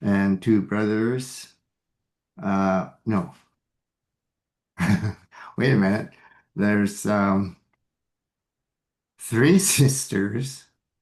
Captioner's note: laughs